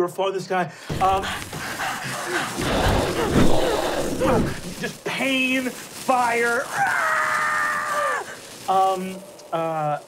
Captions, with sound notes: You're falling through the sky, (panting) (fire blowing) just pain, fire, ahhh!